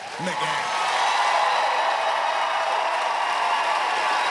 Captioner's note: cheering, applause